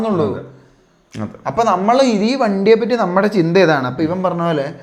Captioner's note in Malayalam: തൊണ്ട ശരിയാക്കുന്നു